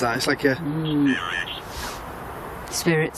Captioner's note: Ovilus speaking